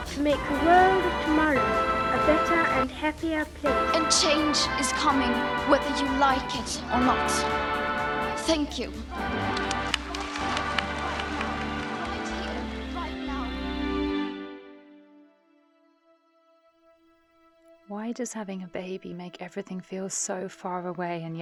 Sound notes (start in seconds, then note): 9.1 audience applauding